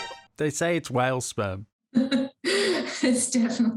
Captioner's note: laughs